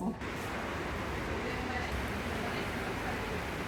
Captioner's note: loud rain